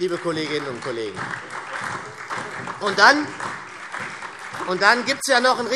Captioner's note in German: Beifall SPD, Freie Demokraten und DIE LINKE